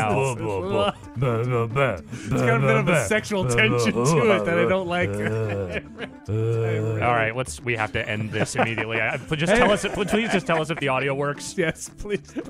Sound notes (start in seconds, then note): 0.0 laughing; 5.4 laughing and bad beatboxing; 11.8 laughing